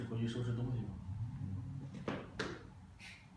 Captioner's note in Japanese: 階段上る音